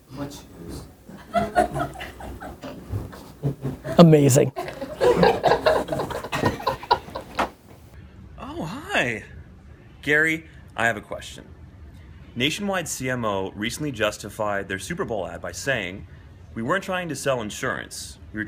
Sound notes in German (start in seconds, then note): 1.0 Gemurmel und Lachen; 5.0 Lachen